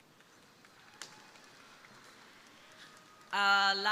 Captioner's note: crowd applauding